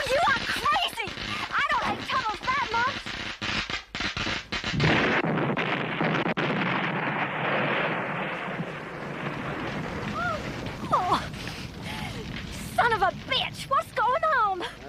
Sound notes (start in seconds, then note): 6.5 car exploding